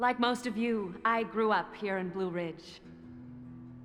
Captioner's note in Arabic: none